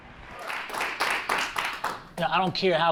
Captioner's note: audience claps